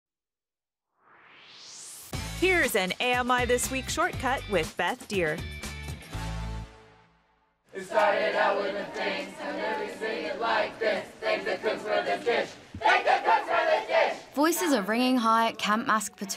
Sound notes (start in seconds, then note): 1.0 swoosh; 6.9 singing